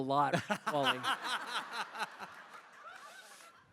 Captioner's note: laughter